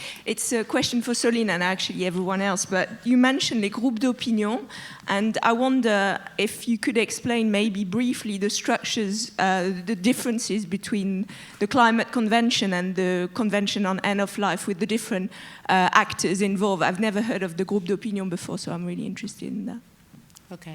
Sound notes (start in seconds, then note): 4.0 speaks French; 17.8 speaks French